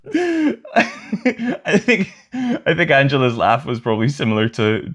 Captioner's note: laughter